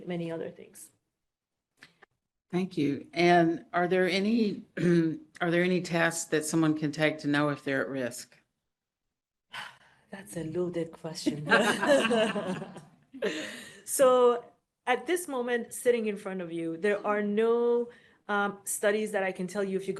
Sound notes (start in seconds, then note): 9.0 sigh; 11.3 laughter